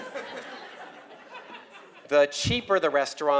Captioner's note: laugh